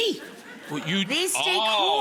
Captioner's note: audience laughs